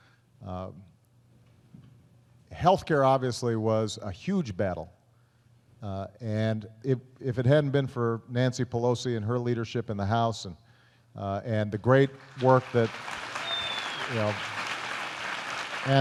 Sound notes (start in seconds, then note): 12.0 applause